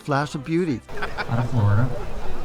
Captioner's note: laughing